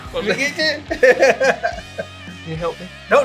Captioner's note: laughs